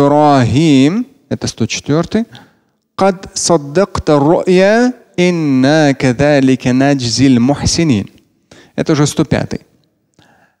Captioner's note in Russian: Говорит на арабском